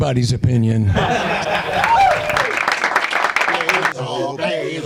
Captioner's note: laughter